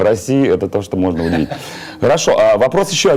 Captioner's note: cute laughing